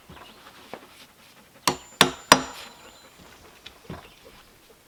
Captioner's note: hammering